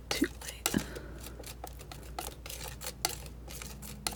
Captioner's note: scratching